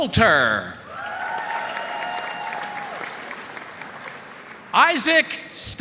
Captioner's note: audience cheering and applauding